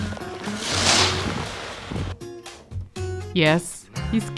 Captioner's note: skier whooshing